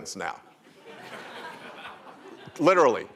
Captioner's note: laughter